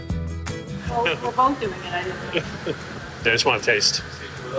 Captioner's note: laughs